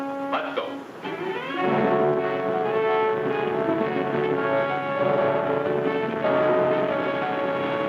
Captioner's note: boat hums; dramatic music